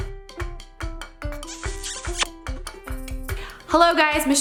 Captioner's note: lips smacking